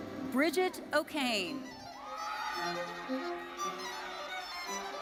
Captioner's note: audience cheering